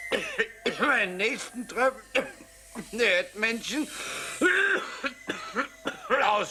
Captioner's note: coughing; coughing